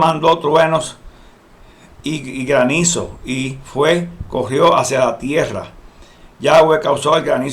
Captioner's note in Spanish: voces